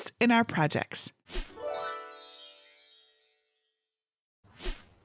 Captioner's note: chimes ringing